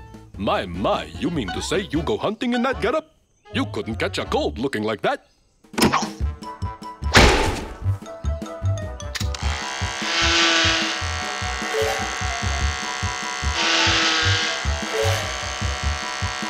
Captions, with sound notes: MY, MY, YOU MEAN TO SAY YOU GO HUNTING IN THAT GET-UP? YOU COULDN'T CATCH A COLD LOOKING LIKE THAT. (buzzer humming)